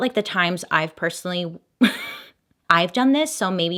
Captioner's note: laughs